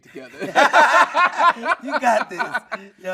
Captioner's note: everyone laughing